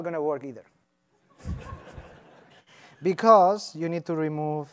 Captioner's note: laughter